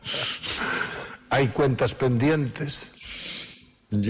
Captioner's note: laughs